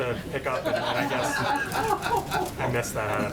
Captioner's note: laughter